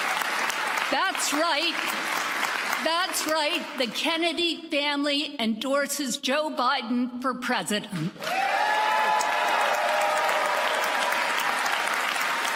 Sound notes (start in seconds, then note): 3.3 applause